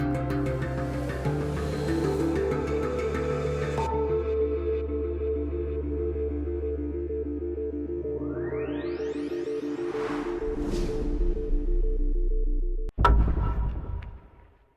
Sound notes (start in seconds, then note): 9.7 air swooshing; 13.0 knock echoing